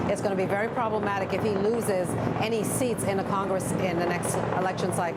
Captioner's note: helicopter overhead